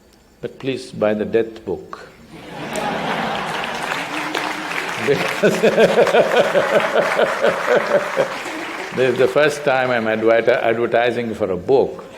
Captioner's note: laughs; applause; laughter